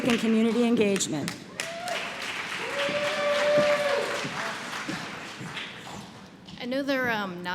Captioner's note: applause